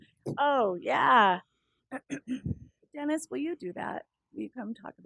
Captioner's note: cough